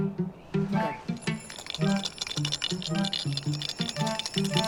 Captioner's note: curious music; bells rattling